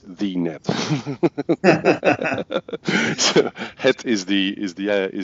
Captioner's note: laughing